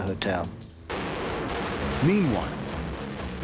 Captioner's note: explosions booming